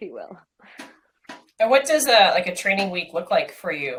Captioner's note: none